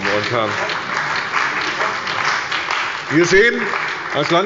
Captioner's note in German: Beifall